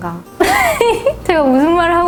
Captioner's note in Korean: 웃음